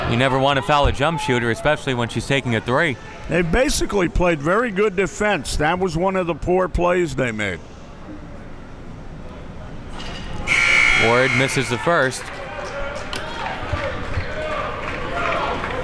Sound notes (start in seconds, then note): 10.4 buzzer rings